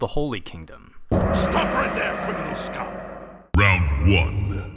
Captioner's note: gong